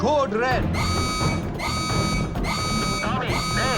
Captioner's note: alarm blaring